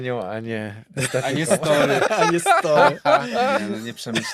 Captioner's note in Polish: śmiech